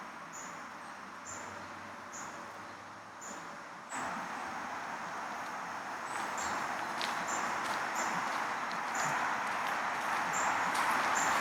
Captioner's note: nature sounds